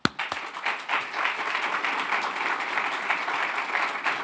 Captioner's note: audience clapping